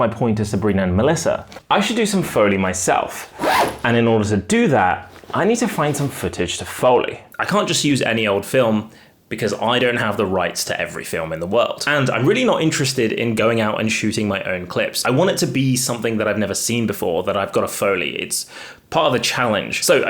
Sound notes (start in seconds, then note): none